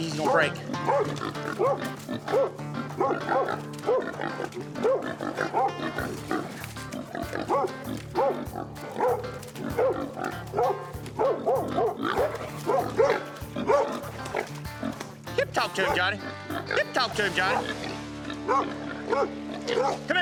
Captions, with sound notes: HE'S GONNA BREAK. [DOG BARKING] [HOG SNORTING] YIP, TALK TO HIM, JOHNNY! [DOG BARKING] [HOG SNORTING]